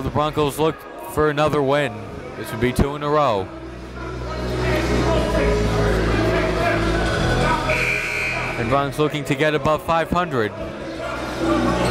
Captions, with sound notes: And now the Broncos look for another win which will be two in a row. (buzzer dings) And Bronx looking to get above 500.